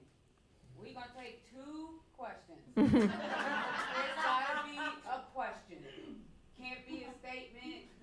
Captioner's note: laughter